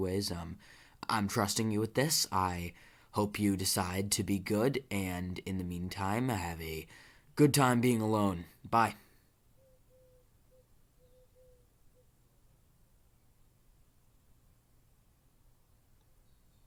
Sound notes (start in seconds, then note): 11.6 silence intensifies